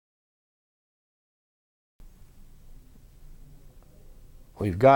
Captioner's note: audio gap